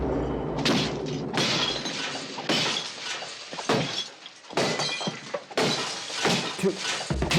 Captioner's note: glass smashes